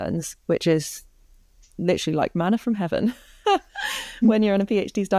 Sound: laughs

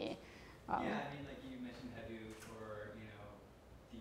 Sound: voiceover

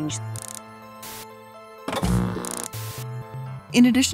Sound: TV static buzzing

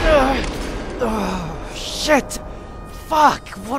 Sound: explosion; air raid siren

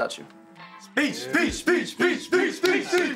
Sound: football team chants

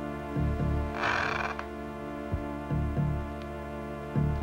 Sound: tense music continues; hinges creaking

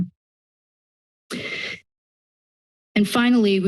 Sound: inhales

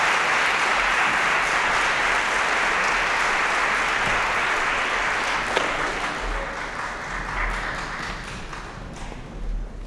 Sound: applause

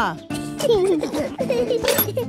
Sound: children giggling

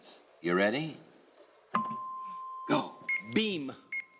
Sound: dinging

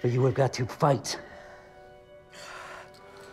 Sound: breathing heavily

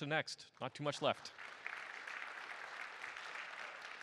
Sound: applause

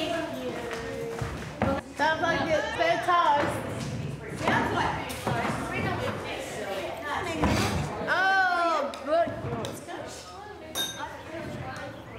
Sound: chatter

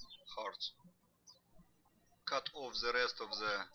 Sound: birds chirping

